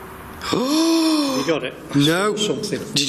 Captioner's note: gasp